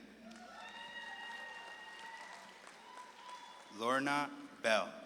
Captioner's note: audience claps and cheers